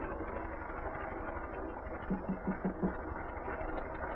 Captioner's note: knock on door